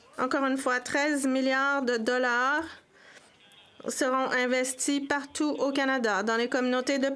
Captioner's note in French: voix de l'interprète